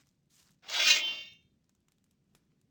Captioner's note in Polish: odgłos wyciąganej porządnej broni